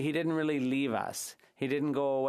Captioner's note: speaking French